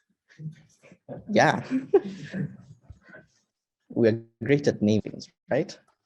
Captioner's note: chuckles